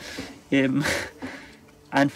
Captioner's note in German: lacht